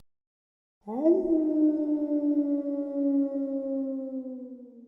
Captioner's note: Casper howls